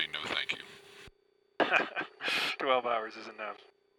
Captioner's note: laughing